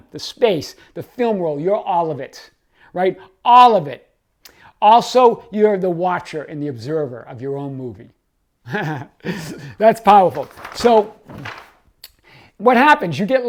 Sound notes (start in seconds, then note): 8.7 chuckles